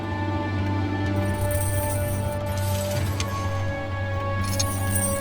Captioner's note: chains rattling